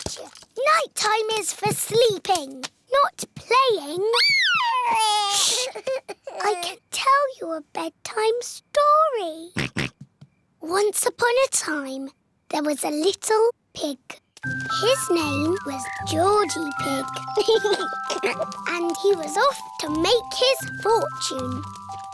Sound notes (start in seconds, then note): 4.4 cries; 9.6 oinks; 17.2 giggles